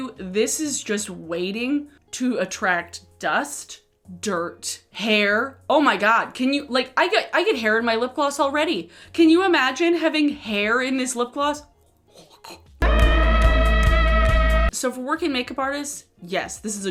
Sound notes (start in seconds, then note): 12.1 gagging; 12.8 man musically screaming